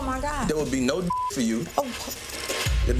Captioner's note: beeps